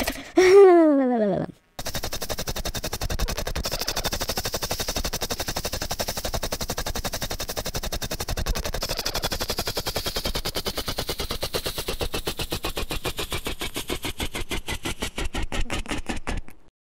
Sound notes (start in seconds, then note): 0.4 mumbles; 1.8 motor idling; 11.8 motor slowdown